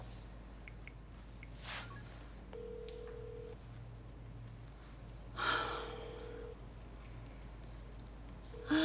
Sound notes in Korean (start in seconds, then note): 2.5 휴대전화 연결음